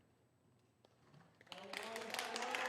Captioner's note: applause